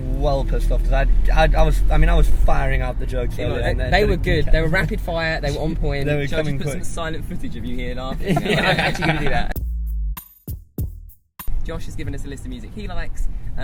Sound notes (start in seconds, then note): 8.1 laughs; 8.4 upbeat music